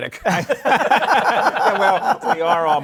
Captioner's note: laughter